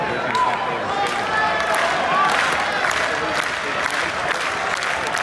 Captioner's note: indistinct crowd chatter; slow clapping; clapping gets faster